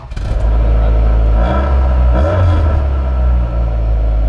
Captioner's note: revving the engine; engine starting up